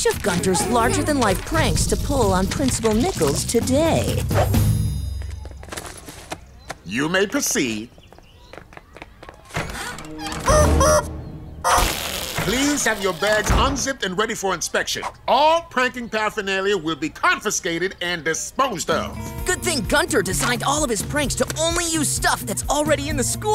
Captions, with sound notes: larger than life pranks to pull on Principal Nichols today. You may proceed. [squeaking] Please have your bags unzipped and ready for inspection. All pranking paraphernalia will be confiscated and disposed of. Good thing Gunter designed all of his pranks to only use stuff that's already in the school.